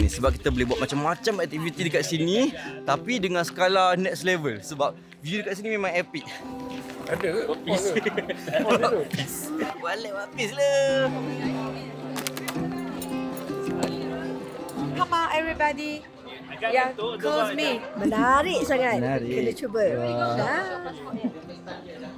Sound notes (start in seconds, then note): 7.1 laugh